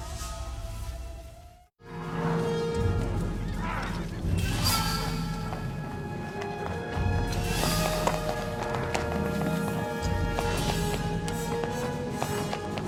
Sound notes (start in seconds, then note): 2.9 horse Whinnies